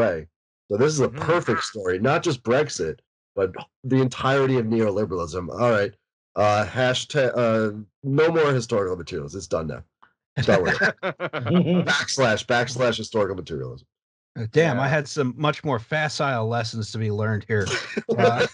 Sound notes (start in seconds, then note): 10.4 laughter